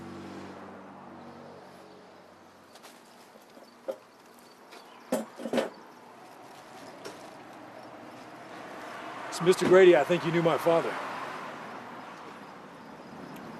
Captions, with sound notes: [chair clanking] So Mr. Grady, I think you knew my father.